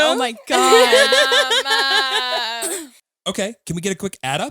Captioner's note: all laughing